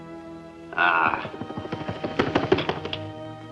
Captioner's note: wings Flapping